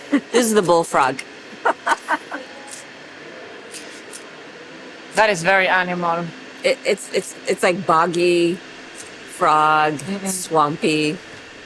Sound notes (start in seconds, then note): 1.6 laughs